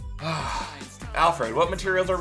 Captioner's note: sighs